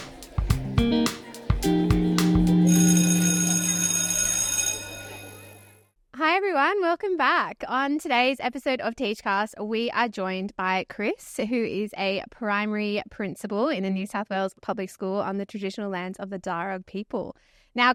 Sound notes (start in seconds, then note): 2.6 school bell ringing